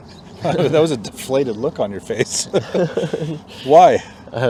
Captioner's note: laugh